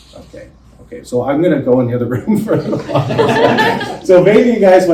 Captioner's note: laughter